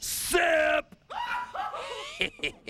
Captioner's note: Nitwúe shrieks; chuckles